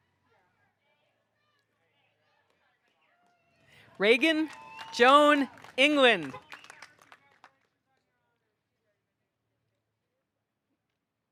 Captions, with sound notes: Reagan Joan England. (audience cheering) (car horn honks)